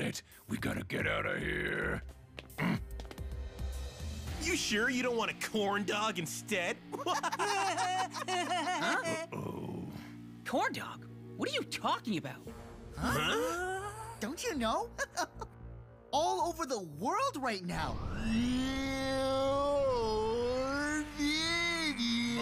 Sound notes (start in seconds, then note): 2.1 footsteps approaching; 6.9 laughing; 15.0 chuckling